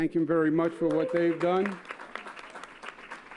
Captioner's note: applause